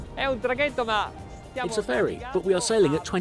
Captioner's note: speaking foreign language